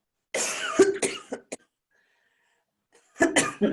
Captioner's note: coughs